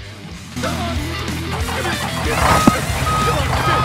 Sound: trucks sounds i initially thought were not truck sounds <:<; engine start

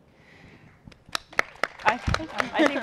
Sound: applause

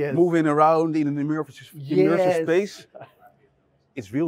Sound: chuckling

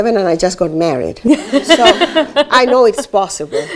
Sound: laughs

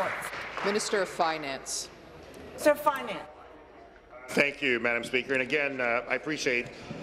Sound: applause

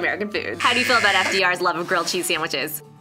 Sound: buzzer

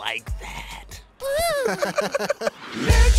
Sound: Jamal cries in disgust while others chuckle

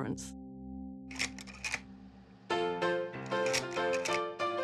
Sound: slide projector clacks

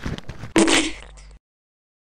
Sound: boof

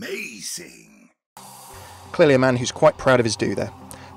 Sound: voiceover

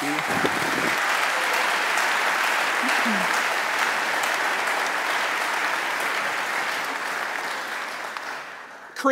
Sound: applause

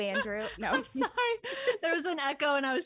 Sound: laughs

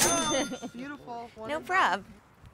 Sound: cash register dings

